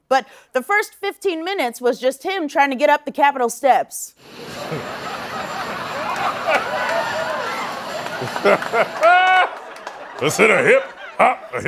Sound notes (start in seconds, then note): 8.3 laughter